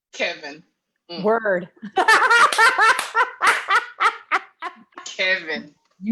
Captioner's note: laughs while clapping her hands